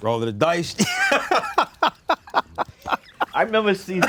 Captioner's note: Ryan laughs